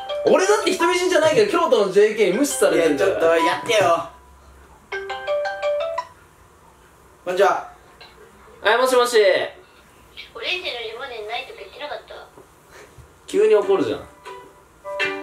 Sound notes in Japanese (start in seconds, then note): 8.0 早口; 9.1 ゴソゴソ